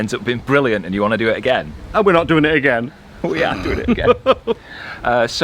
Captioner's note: laughs